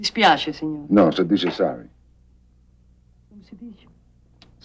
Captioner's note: speaking foreign language